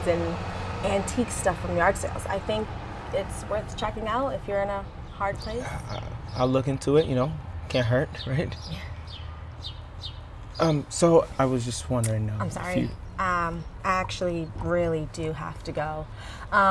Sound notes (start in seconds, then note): none